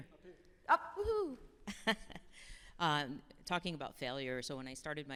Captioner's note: chuckles